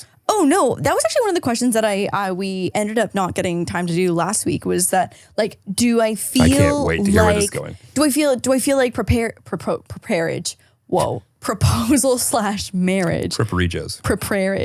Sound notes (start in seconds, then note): 10.0 stuttering